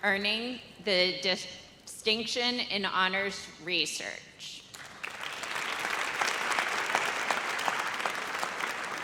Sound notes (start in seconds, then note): 4.8 audience applauds